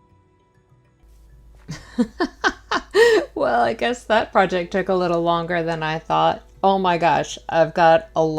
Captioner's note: laughing